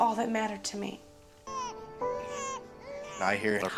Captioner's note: baby cries